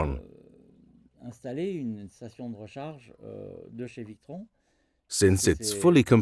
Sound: speaking in foreign language

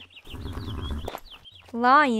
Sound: small neigh

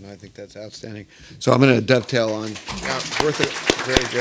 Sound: audience applauding

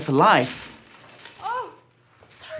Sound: kite rustling

